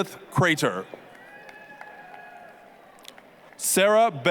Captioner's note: applause, cheering